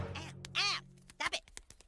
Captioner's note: slapping; screaming